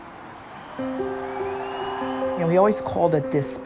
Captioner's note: cheering